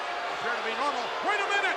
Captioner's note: spectators cheering